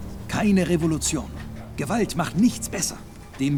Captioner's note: speaking in German